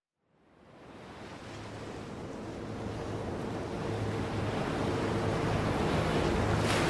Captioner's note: waves crashing